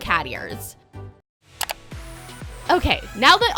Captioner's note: clicking